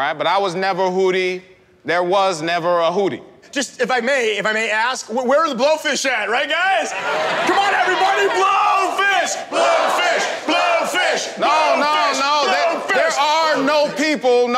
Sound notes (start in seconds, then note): 9.9 crowd